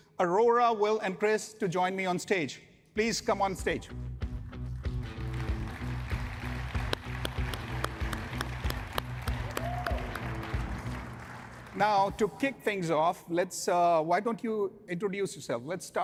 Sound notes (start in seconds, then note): 3.1 upbeat music; 5.3 audience cheering